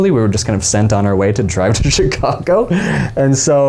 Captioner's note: laughing